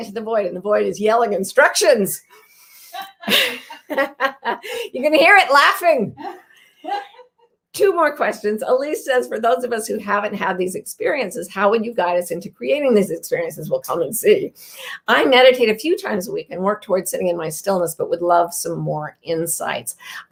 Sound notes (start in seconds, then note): 2.9 woman laughs; 2.9 laughs